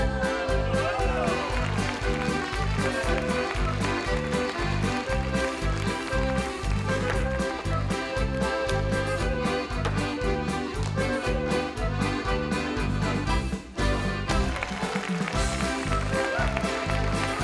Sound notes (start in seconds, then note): 0.3 lively music continues; 4.5 audience clapping